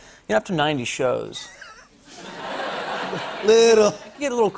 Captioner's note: laughter